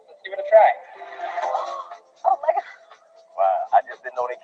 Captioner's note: gasps